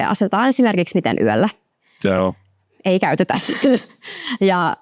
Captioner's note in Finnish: naurahtaa